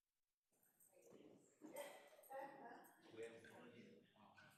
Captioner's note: group chattering